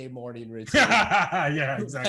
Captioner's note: laughs